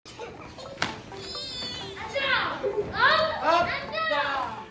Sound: children playing

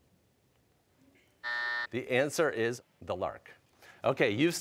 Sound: buzzer

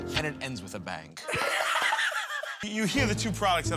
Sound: laughs

